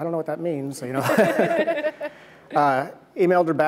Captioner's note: laughs